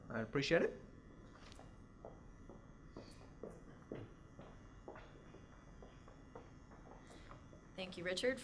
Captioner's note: footsteps